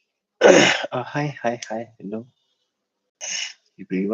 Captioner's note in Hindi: गला साफ़ करने की आवाज़